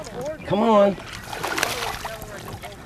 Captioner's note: big Splash